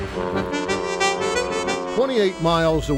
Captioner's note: dramatic music; ship honking